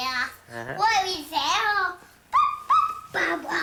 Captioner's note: babbling